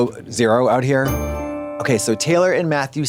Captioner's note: bright chime